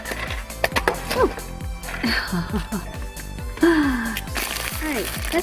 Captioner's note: giggles